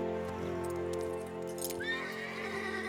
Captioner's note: horse neighs